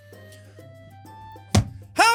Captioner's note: slams hands on desk